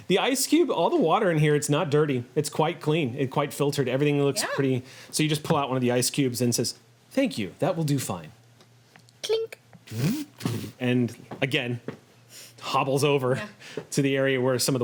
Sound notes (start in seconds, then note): 9.8 mechanical whirring